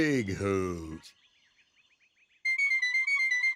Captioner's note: birds chirping; hooting